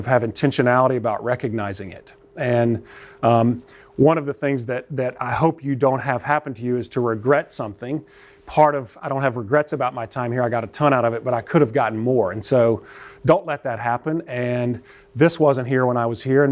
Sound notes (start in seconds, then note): none